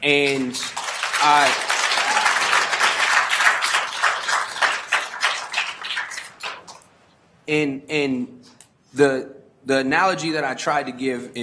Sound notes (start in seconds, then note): 1.9 attendees applauding